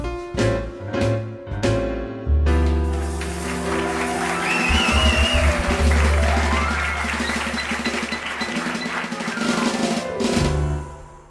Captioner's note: applause, cheering, and whistling